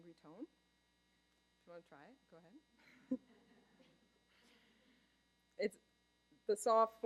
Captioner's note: laughter